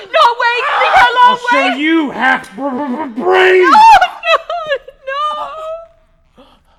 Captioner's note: crying